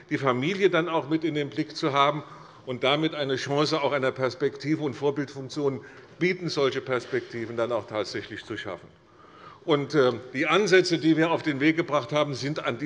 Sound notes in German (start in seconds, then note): none